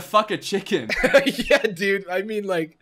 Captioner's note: laughs